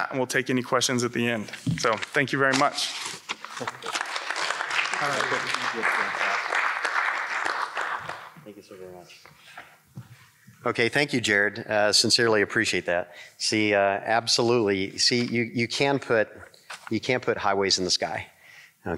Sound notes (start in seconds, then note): 3.4 congregation clapping